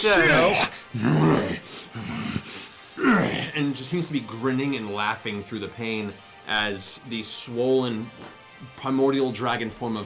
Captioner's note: growling